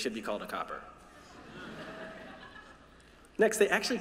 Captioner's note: laughter